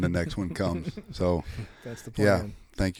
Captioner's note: chuckles